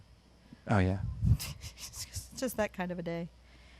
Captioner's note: chuckles